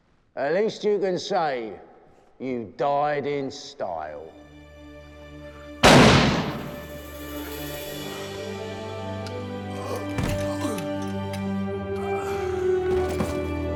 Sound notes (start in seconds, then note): 5.8 gun firing; 7.5 light melodic orchestral music; 9.6 groaning